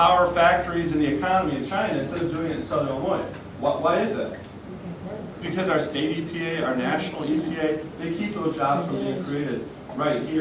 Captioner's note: crowd murmurs